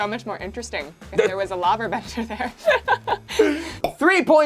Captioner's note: laughs